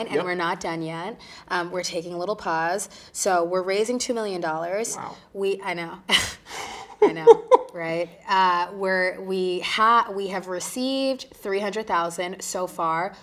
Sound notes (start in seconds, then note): 6.5 both chuckling